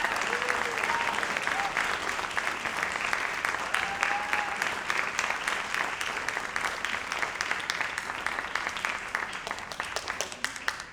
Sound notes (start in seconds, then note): 3.7 audience continue applauding and cheering